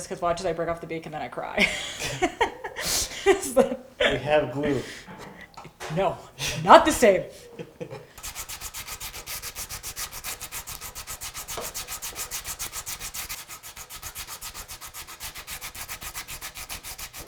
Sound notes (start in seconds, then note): 1.6 laugh; 8.2 sand paper scratches against wood